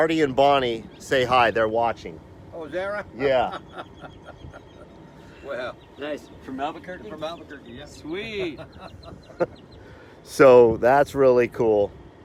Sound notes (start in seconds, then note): 3.2 laughter